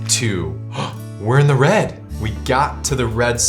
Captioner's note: gasps